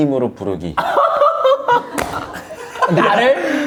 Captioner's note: laughing